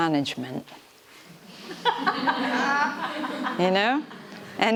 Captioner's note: audience laughter